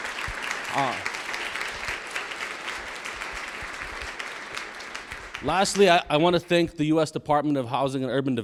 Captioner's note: applause